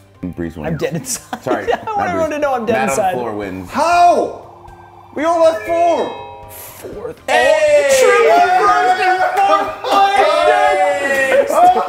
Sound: laugh

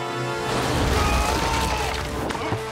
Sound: screaming

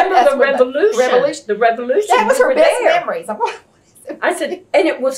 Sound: laughs

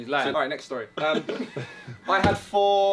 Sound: all laughing

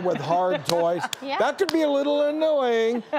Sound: audience laughing

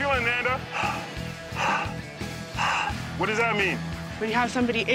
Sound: heavy breathing through megaphone

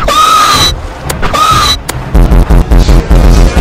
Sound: screech; hitmarker click

